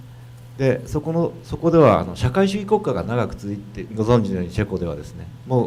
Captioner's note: speaking foreign language